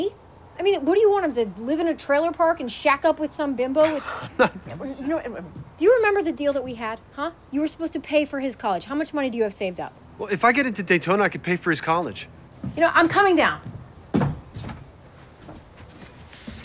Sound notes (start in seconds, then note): 4.7 stammering